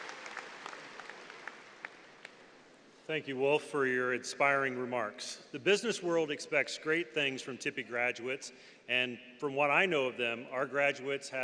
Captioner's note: applause